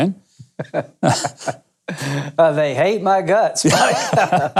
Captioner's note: laughing